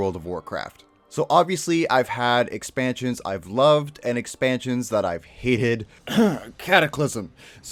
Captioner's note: cough